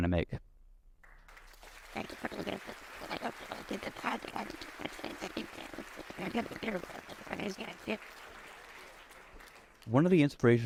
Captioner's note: applause